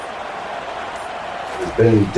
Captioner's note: crowd Noises